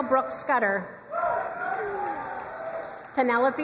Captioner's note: crowd cheering and applauding